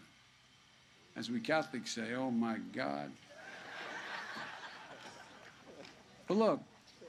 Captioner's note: laughter